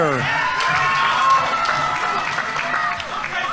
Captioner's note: audience members cheering; audience applauding